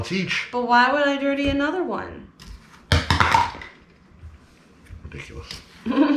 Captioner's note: measuring cup clatters on table